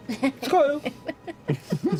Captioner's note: laughs